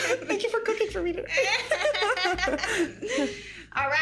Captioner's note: laughing